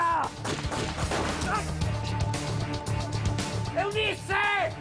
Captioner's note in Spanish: Disparos